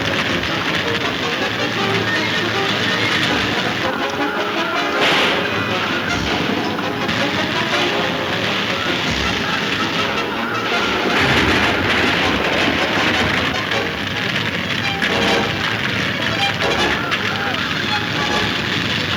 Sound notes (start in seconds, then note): 4.1 gun firing; 11.0 wagon top crashing; 14.2 exciting music